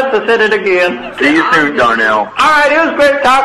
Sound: laughs

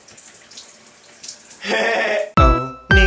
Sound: laughs

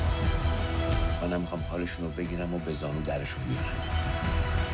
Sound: man in Farsi

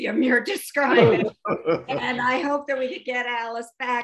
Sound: laughter

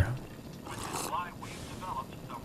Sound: sip

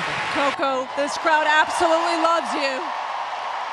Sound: applause

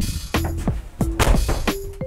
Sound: door Slams

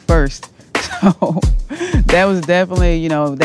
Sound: Essence laughs

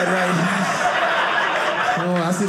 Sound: audience laughing

